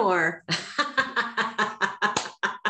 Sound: they laugh

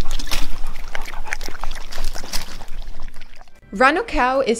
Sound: dog panting; dogs lapping up water

